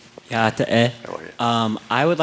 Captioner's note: non-english speech